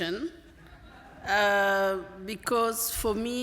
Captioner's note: laughter